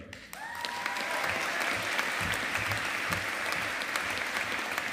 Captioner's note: audience applauding